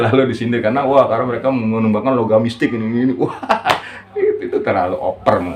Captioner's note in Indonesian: tertawa